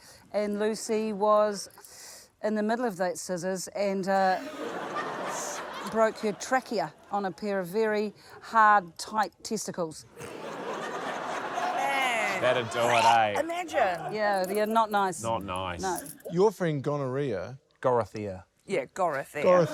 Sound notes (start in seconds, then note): 4.3 laughter; 10.1 laughter; 13.2 chokes; 19.5 laughter